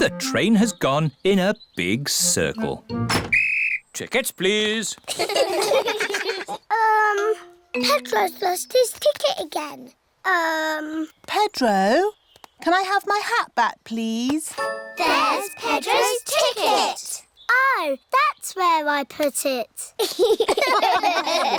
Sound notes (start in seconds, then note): 3.2 blows whistle; 5.1 all laugh; 20.0 all laugh